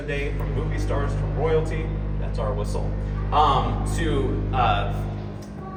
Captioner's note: queen mary’s hourly horn sounds